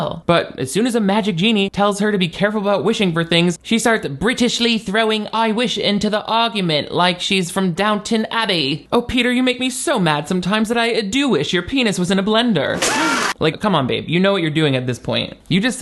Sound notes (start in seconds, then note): 12.7 blender whirs; 12.8 person screams